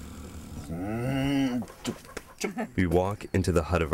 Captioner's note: growling